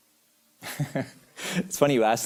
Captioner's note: chuckles